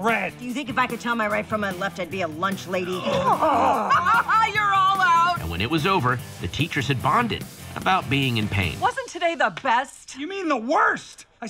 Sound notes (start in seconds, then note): 2.9 laughs; 2.9 all grunt